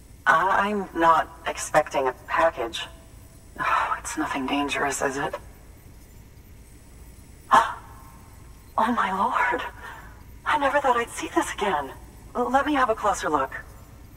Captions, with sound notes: I, I'm not expecting a package. (Exhales) It's nothing dangerous, is it? (Gasps) Oh my Lord, I never thought I'd see this again. Let me have a closer look.